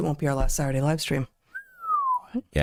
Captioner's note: whistles